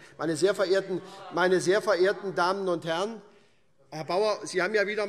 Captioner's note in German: Zurufe AfD